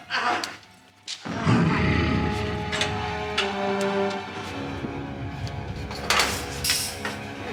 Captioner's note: dramatic music; Donald growls